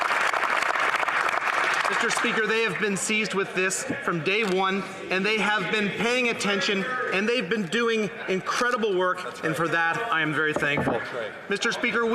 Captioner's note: applause